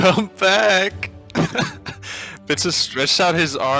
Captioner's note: laughing